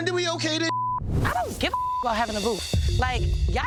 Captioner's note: beeps